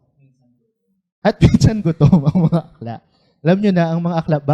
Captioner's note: laughs